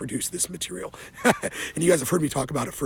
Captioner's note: laughs